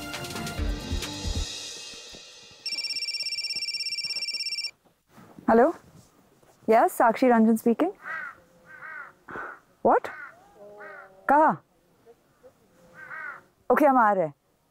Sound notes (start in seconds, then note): 2.6 phone ringing; 8.6 crows cawing; 12.8 crows cawing